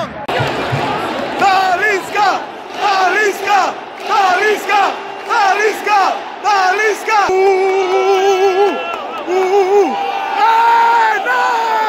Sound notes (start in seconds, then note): 0.0 clap; 4.9 clap